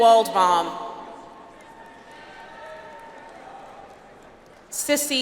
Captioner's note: audience applauds